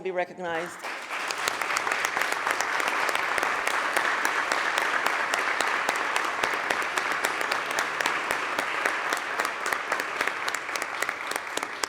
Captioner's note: applause